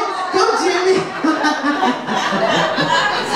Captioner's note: laughs; audience laughs